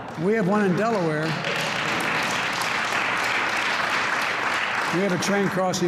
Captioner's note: applause